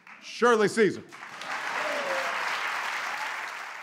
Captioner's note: applause